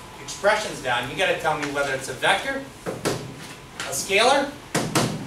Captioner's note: hits desk